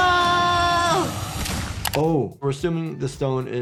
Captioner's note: dramatic music; statue thuds